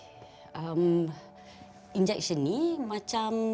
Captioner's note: in Bahasa Melayu